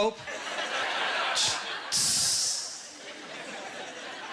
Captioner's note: imitating pressure-gas hissing; laughing